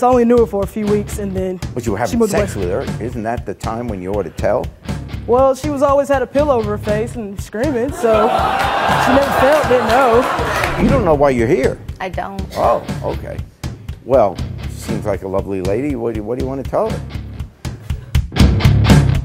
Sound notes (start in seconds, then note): 7.9 audience laughing